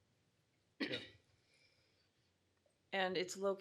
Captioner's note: clears throat